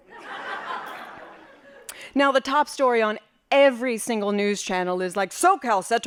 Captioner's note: laughing